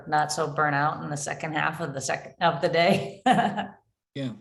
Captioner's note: chuckling